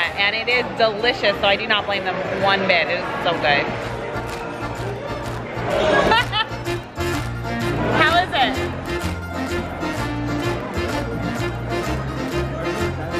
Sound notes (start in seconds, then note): 5.7 laughing; 9.3 italian music